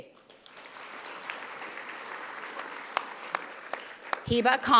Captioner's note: audience applauding